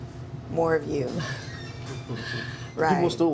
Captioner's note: laughs